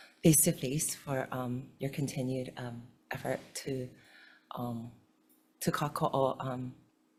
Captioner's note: speaks foreign language